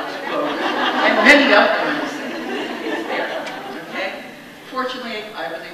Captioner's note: audience laughs